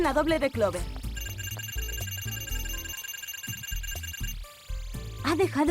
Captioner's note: electronic beeps